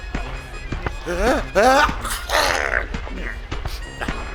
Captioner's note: sneezing